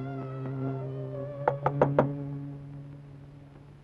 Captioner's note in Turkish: Kapı çalma sesi